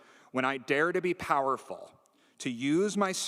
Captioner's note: none